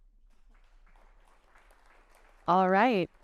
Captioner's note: audience clapping